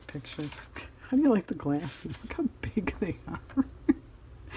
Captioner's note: laughs